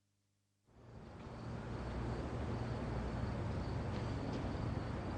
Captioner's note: crickets stridulate